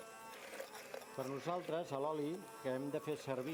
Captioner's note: non-english speech